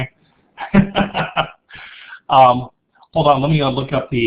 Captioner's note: laughing